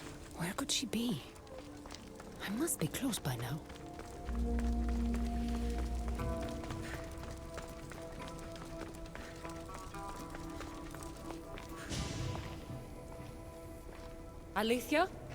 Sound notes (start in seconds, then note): none